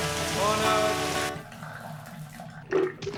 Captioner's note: water stops